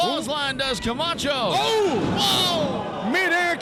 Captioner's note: loud thump